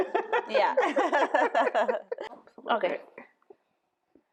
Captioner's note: laughing